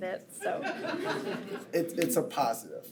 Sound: attendees chuckle

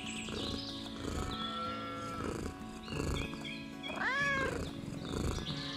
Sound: cows mooing in distance; Milo purring; Honey Cat meows & purrs

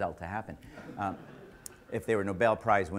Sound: audience laughter

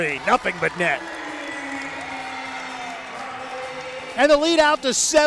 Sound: cheering

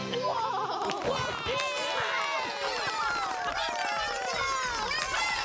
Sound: crowd cheering and clapping

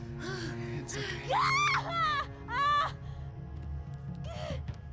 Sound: screaming

